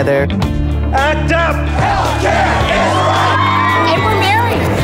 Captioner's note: chanting